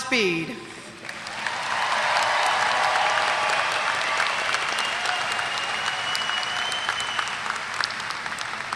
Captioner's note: applause